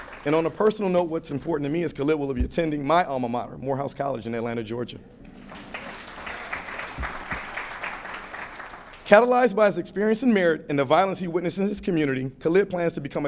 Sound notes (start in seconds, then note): 5.3 applause